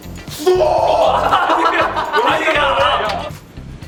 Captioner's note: yells out too early again